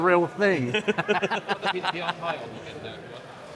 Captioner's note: mumbling